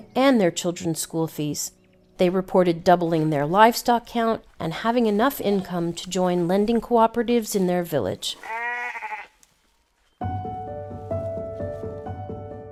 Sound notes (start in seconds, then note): 8.2 donkey neighing; 10.2 bright music